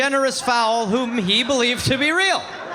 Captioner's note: audience laughing